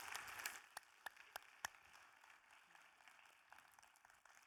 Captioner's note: audience applauding